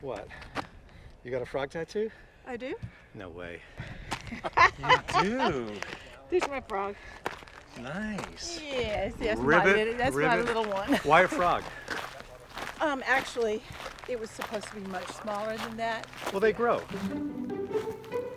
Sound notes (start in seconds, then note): 4.4 laughing; 18.1 happy music